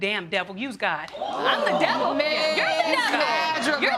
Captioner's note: audience gasp